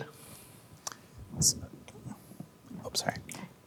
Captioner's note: starts to whisper